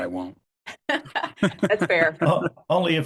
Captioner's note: laughs